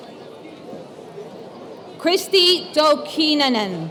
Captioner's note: none